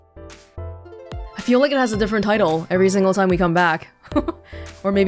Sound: chuckles

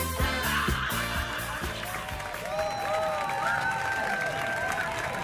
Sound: music ending; crowd applauding and cheering

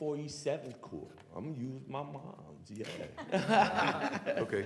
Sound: laughter

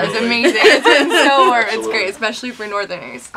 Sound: laughs

